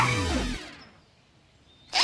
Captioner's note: screeching